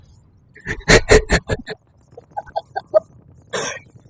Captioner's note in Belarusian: Смех